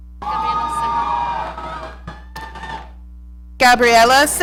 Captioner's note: audience cheering